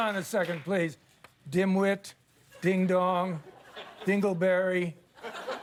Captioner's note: cheers and applause